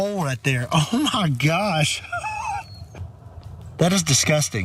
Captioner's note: laugh